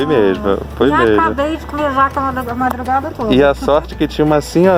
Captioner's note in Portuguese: risos